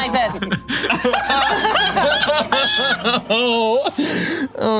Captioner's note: group laughs